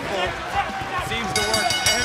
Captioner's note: bell ringing